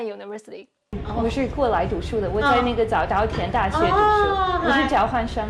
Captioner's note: speaking Chinese